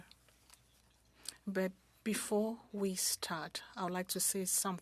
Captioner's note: speaking French